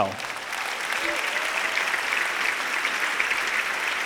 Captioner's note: audience applauding